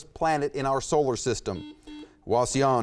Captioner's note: buzzer beeps